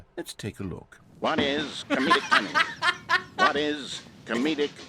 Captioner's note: laughs